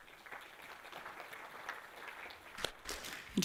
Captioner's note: applause